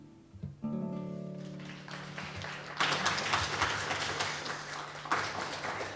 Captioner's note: applause